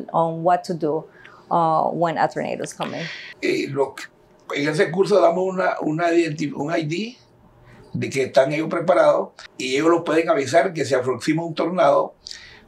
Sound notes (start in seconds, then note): 3.6 speaking in Spanish